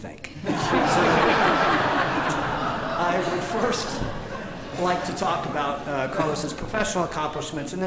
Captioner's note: laughter; laughter